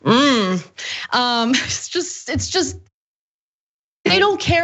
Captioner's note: laugh